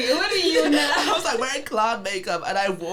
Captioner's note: laughing